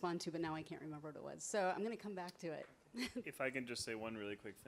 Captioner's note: chuckles